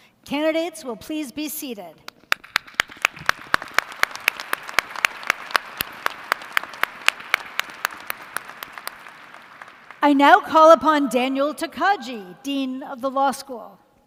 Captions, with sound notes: Candidates will please be seated. [ Applause ] I now call upon Daniel Tokaji, Dean of the Law School.